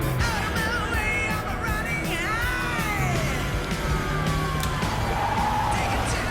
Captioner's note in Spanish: Sirena de la patrulla